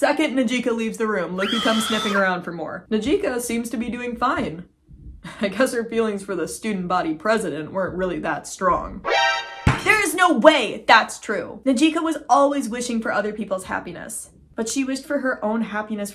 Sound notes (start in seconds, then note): 1.4 scream sound effect; 5.0 chuckles; 9.0 shocked sound effect